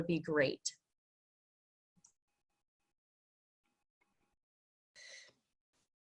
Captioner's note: long Pause